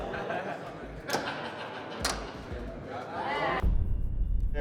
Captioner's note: men laughing